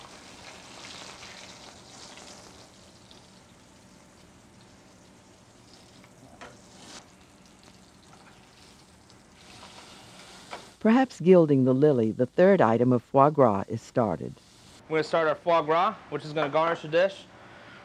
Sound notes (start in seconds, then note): 10.6 voiceover